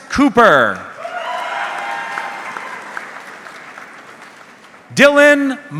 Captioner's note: audience cheering